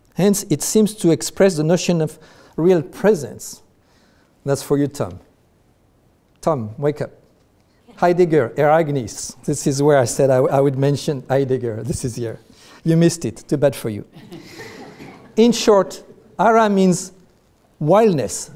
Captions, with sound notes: Hence, it seems to express the notion of real presence. That's for you, Tom. Tom, wake up. Heidegger — "Ereignis!" This is where I said I would mention Heidegger. This is here, you missed it. Too bad for you. (audience laughs) In short, "ara" means wildness,